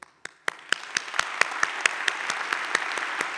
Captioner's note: audience claps